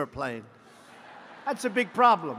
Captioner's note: laughter